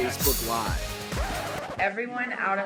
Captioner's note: record scratches